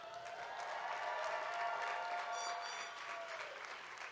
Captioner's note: audience cheering